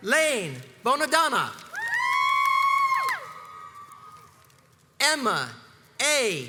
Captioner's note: crowds cheers and applauds